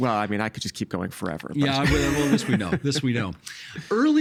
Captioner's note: laughing